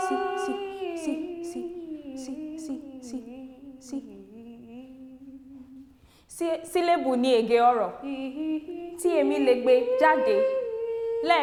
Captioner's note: begins speaking Yorùbá